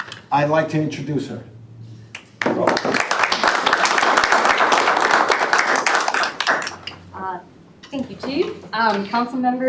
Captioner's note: applause